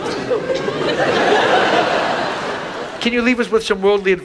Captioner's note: audience laughs